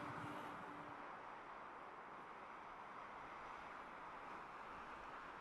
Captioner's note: wind blowing